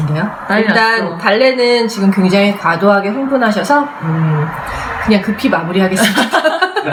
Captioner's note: laughs